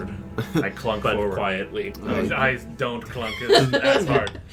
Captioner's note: giggles